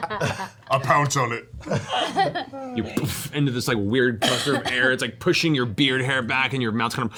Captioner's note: soft impact